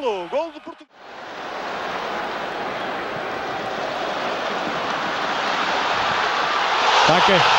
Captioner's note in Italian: Applauso